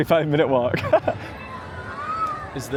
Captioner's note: laughter